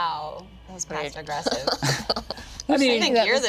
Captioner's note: group laughing